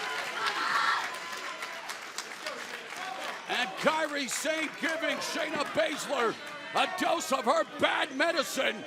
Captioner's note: cheers and applause